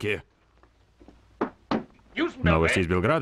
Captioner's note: floor pattering